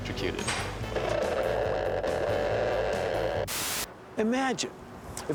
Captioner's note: <i> crackling</i>